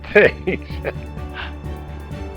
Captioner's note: laughs